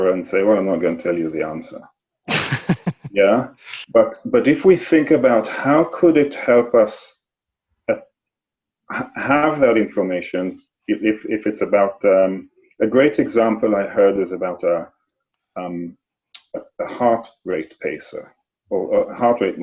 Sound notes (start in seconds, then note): 2.3 laughs